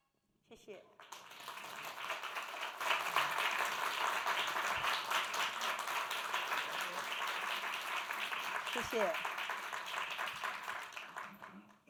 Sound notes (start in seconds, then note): 0.9 applause; 10.6 speaking Mandarin